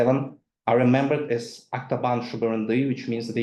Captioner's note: speaks in foreign language